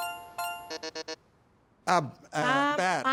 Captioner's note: buzzer beeps